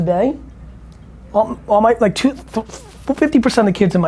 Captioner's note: stammers